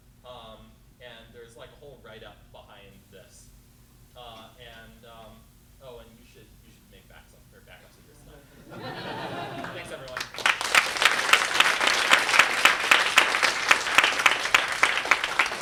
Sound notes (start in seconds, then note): 8.2 laughter; 10.9 applause